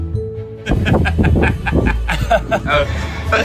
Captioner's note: bright music; laughs